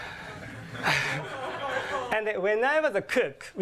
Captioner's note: laughter